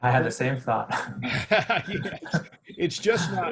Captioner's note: laughs